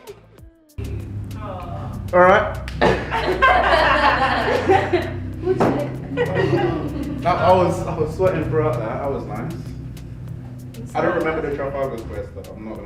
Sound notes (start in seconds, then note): 3.5 all laughing